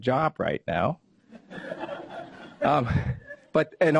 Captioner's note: audience laughs